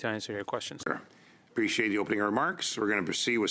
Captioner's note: speaking in French